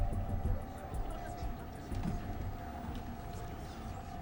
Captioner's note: spectators chatting indistinctly